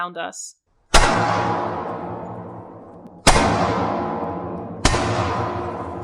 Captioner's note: isolated, amplified distinct, steady gunfire for the cracks